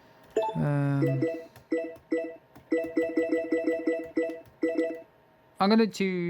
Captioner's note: toca 2 menu navigation sound